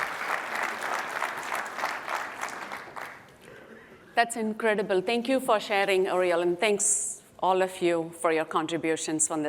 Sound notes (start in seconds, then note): 2.3 applause